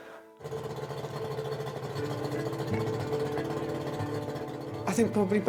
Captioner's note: boat whirring; soft music